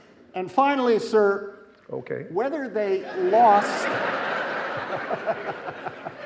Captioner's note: laughs; audience laughing